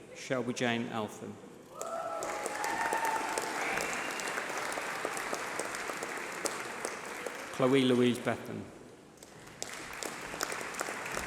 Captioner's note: applause